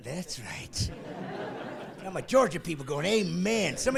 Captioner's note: voiceover